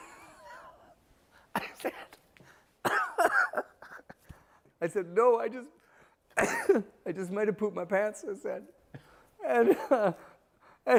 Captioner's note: laughter